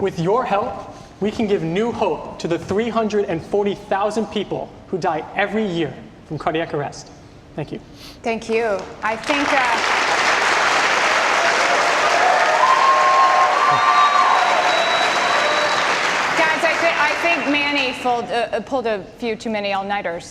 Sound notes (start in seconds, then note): 11.6 audience applause and cheers